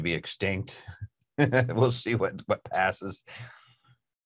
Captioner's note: laughs